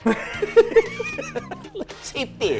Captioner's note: both laughing